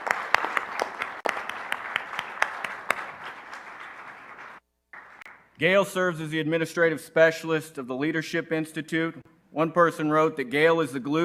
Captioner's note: applause